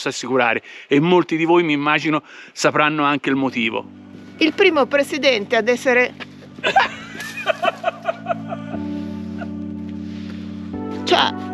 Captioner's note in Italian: Risate